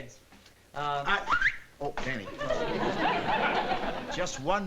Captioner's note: whistles